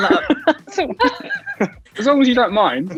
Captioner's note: all laughing